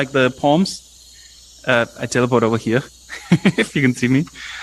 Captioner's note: laughs